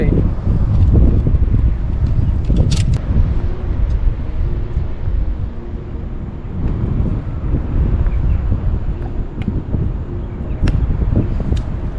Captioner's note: wind blowing